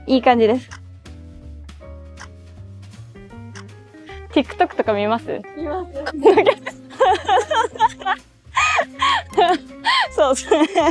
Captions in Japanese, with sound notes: TikTokとか見ます？ 見ます。 そうそう。あ、そっか。 [笑い]